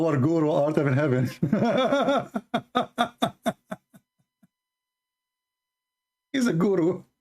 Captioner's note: Ketawa